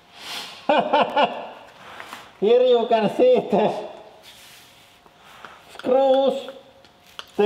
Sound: laughs

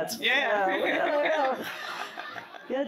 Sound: laughs

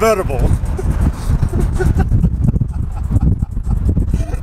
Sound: laughing

